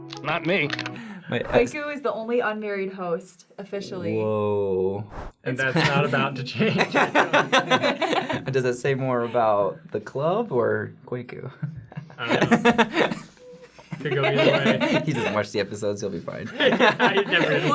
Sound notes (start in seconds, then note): 7.1 laughing; 13.7 laughing; 16.6 laughing